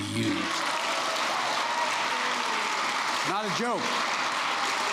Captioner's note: applause